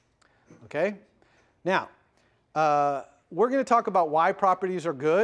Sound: pause

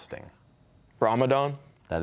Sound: whispering

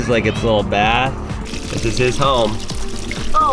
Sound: water running

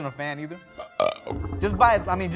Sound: burping

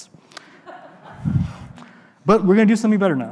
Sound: audience laughing

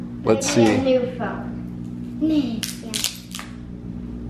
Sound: child's Voice

